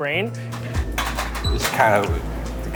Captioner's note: objects clattering